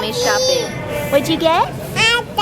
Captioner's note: toddler yells